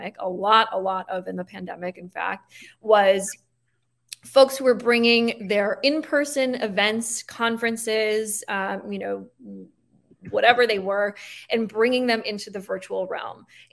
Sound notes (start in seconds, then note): none